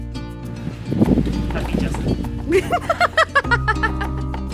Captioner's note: laughs